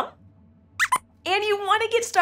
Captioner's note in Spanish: Squeaks chirría